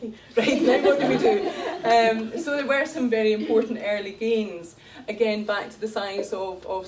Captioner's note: laughter